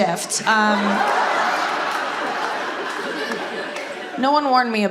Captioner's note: audience laughing